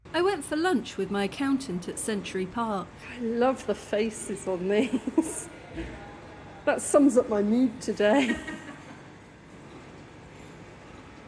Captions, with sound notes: I went for lunch with my accountant at Century Park. I love the faces on these. That sums up my mood today. [friend laughing]